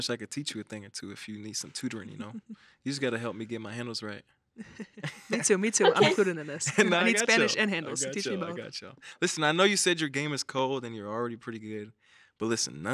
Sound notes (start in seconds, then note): 4.6 chuckles; 4.6 laughs